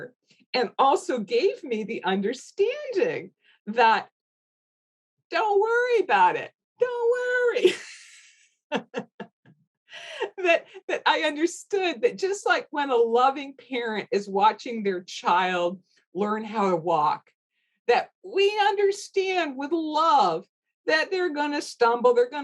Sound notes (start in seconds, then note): 7.8 laughs